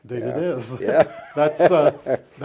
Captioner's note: chuckles